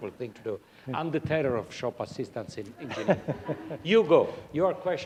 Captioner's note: laughter